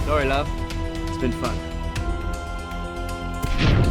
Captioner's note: none